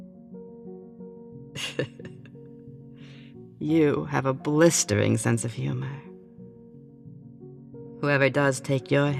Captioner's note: chuckling